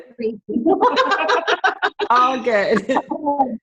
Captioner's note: laughter